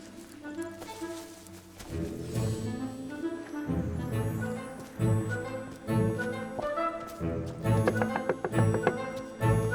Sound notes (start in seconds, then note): 7.7 knocks